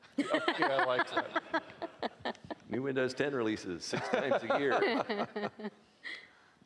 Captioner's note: laughing